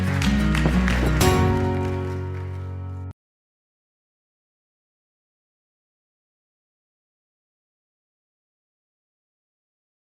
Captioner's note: applause